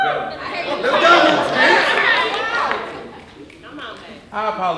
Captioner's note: audience wooing and laughing